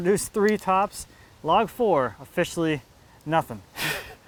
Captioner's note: laughs